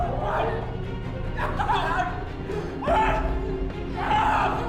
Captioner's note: yelling